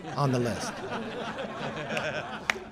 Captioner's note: laughter